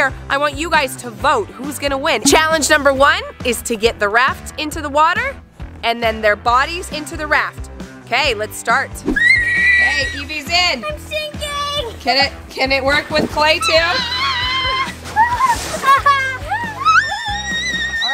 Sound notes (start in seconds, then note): 9.1 screaming; 13.6 girls squealing